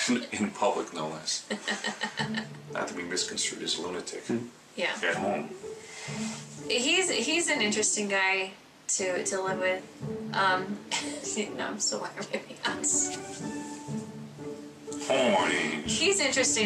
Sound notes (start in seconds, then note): 1.5 laughs; 10.9 chuckles; 14.3 chuckles